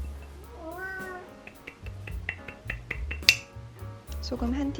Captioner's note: meow